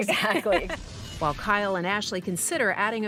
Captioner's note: laughs